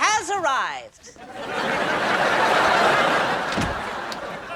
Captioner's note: audience laughing